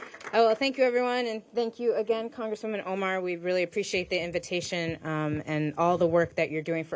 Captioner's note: applause